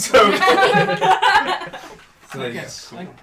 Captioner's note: laughter